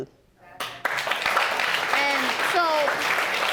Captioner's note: audience applauding